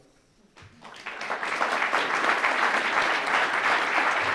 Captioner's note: applause